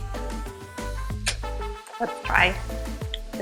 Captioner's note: clicks lips